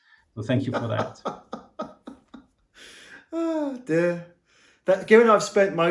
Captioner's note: laughing